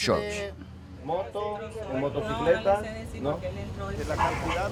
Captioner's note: Spanish language